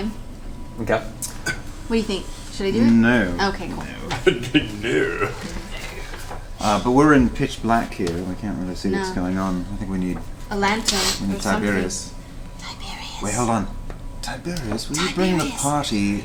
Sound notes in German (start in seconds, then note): 3.7 lacht; 12.4 flüstert